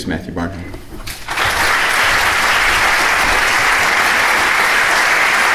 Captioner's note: audience applauding loudly